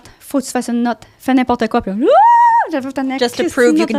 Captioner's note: in french